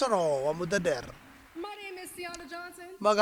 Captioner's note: cheers and applause